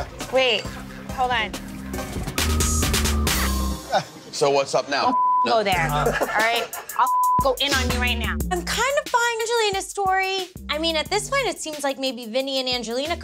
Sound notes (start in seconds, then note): 2.3 dramatic music; 7.0 beep